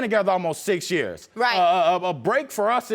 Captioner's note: stutters